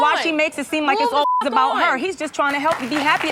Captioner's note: beep